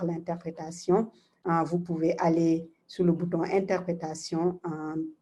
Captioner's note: speaking in foreign language